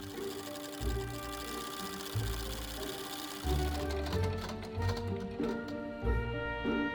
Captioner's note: machine clicking